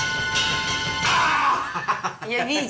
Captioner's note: suspenseful music; growling